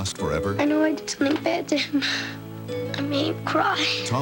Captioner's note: sobbing